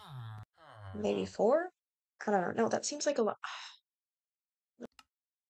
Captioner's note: sighs0\